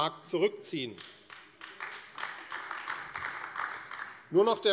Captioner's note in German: Beifall AfD